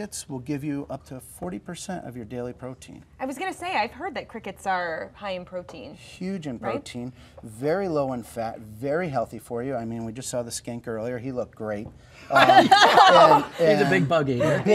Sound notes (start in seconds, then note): 12.3 laughing